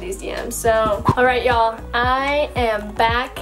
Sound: air whooshing

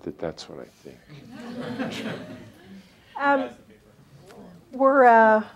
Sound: laughter

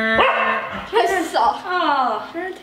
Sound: makes buzzer sound; barks

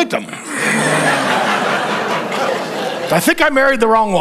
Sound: congregation laughing

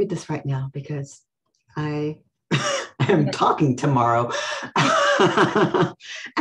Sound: laughs

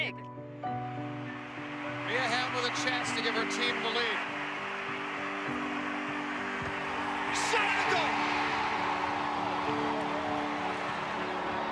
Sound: crowd cheering

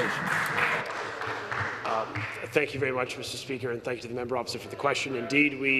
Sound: some Applause

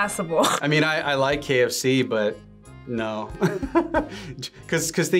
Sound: laughs; laughs

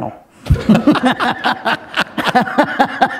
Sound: laughter

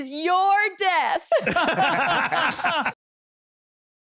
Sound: laughing nervously

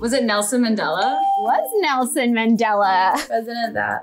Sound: bell rings

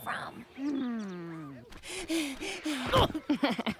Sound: panting

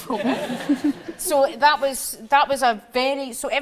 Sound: audience laughs

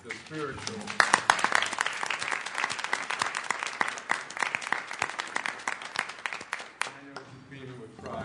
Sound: applause

